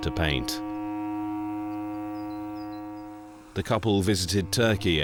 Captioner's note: birds chirping; relaxing instrumental music